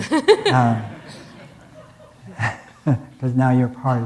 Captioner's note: audience laughing